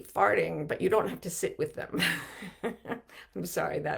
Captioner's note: chuckles